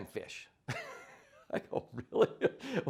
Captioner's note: laughs